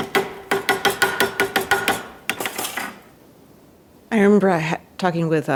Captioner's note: equipment tapping